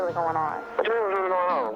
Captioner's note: on phone